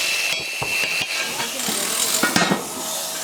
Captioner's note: sounds of work